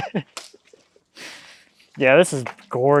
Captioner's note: chuckles